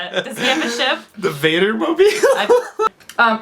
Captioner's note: laughs